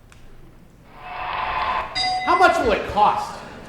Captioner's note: cheering; dinging